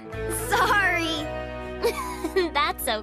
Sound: chuckles

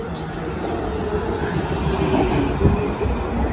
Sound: train comes over

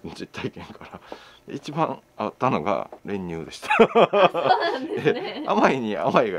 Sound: laughs

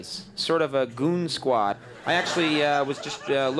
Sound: audience laughing

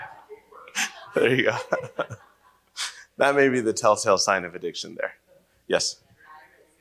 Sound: laughs

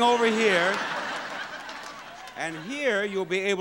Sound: audience laughs

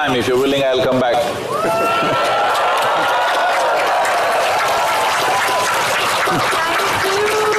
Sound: cheers/Applause

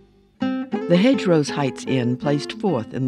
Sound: voiceover

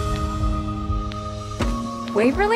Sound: peaceful music; trunk slamming

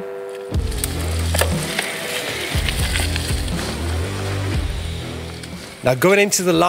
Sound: upbeat music; bike tires zipping

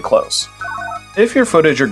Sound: analog beeps

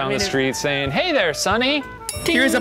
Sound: bell dings

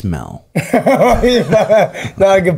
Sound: laughs

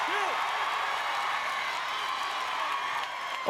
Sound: applause

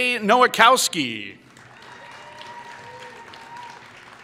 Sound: applause

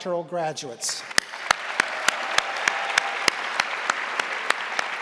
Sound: crowd applauding

